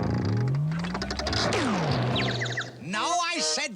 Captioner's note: tweet tweet; wham